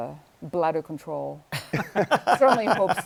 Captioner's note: laughter